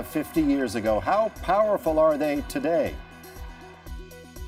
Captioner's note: cheers and Applause